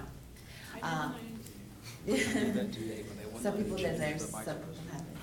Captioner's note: crowd talking